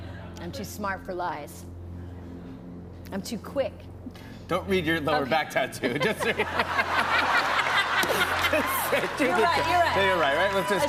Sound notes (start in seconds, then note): 5.8 laughter